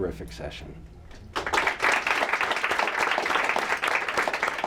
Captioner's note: applause